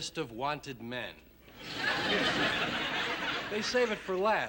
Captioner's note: laughter